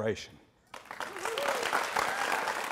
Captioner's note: applause